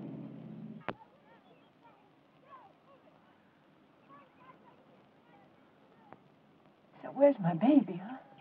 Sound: kids playing

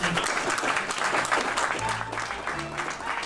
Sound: applause

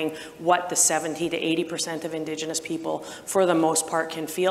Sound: none

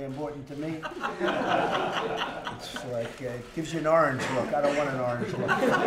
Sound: laughter

